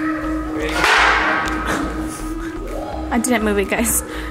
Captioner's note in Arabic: ضجيج قعقعة